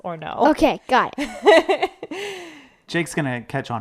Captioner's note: laughs